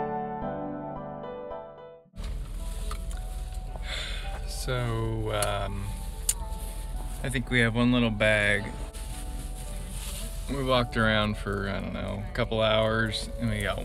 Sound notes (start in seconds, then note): 3.8 sigh